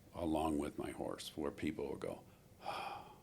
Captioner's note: sighs